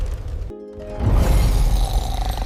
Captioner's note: snoring